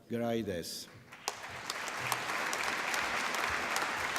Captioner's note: applause